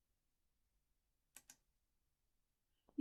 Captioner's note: click